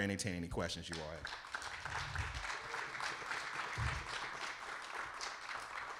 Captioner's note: audience applauding